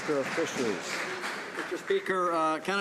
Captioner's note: some Applause